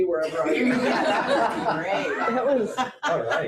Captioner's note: audience laughs